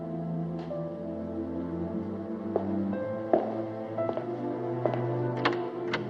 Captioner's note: footsteps Stop, Continue; door Opens, Hinges Creak